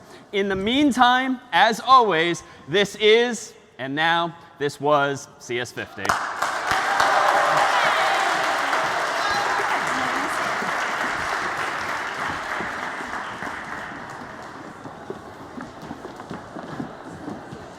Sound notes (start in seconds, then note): 6.0 applause